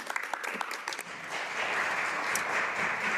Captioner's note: speaking alternate language